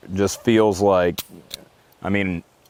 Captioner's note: gun trigger clicks